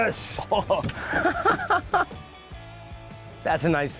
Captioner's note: anglers laughing